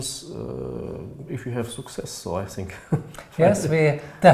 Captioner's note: chuckles